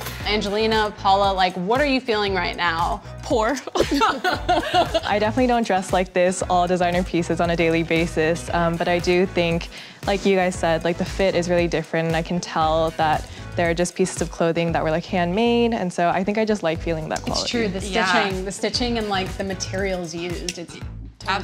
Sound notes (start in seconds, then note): 3.6 laughter